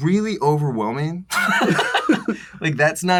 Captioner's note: laughter